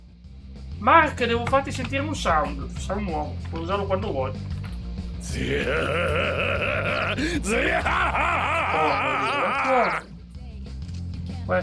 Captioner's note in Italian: gemito; urlo